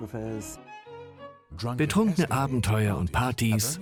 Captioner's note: voiceover